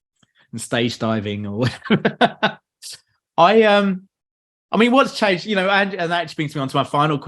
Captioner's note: laughs